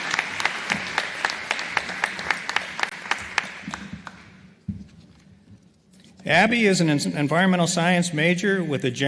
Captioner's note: applause